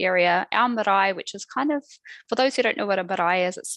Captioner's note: non-english speech